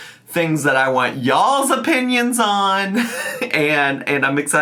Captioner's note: laughs